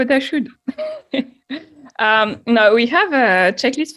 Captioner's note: chuckles